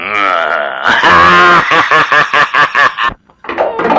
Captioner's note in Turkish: Kahkahalar